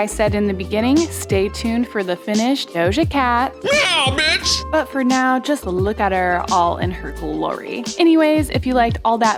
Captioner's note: meow